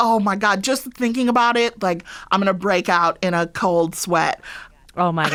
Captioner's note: laughter